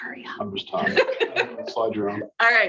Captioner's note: laughing